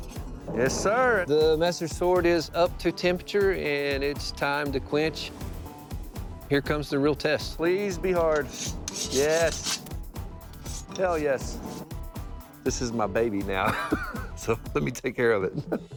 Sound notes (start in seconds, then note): 13.6 laughs